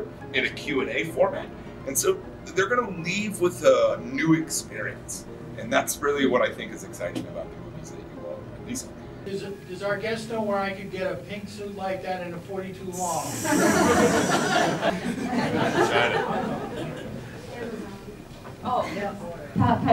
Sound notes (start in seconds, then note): 13.0 laughs